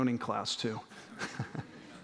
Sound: laughter

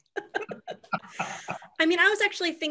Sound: laughs

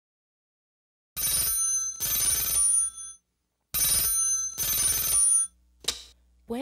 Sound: teléfono sonando

